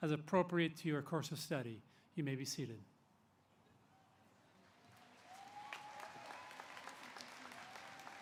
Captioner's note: applause